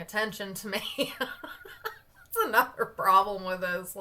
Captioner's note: laughs